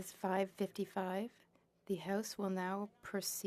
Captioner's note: speaking French